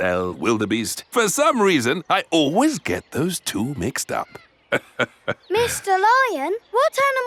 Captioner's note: laughs